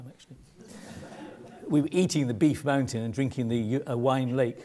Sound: laugh

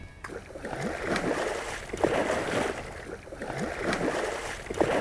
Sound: water splashing

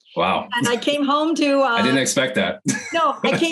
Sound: laughs

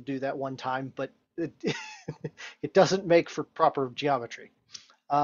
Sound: laughs

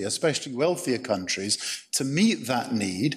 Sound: none

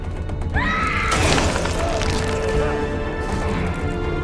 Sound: dramatic music; terrified screaming; dramatic music

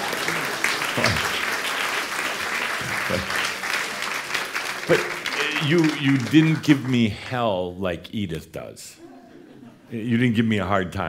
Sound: audience applause

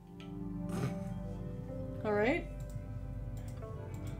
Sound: snorts

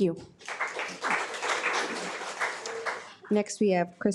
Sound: audience applauds

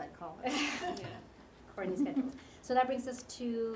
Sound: laugh

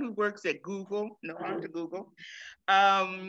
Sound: laughs

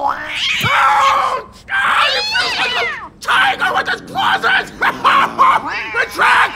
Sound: cat snarling; Peter screaming indistinctly

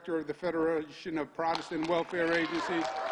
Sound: cheers and applause

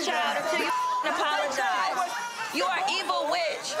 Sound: beep

